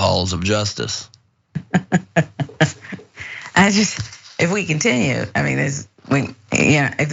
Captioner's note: laugh